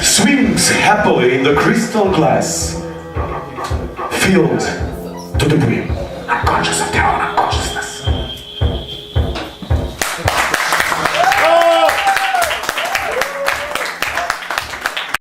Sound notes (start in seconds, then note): 10.0 applause and cheering